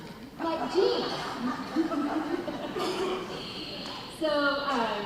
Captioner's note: laughing